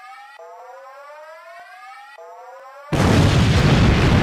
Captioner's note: alarm Continues; explosion